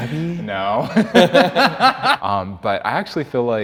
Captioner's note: laugh